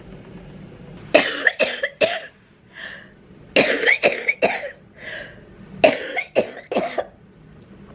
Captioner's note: coughing